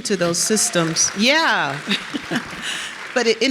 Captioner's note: audience cheers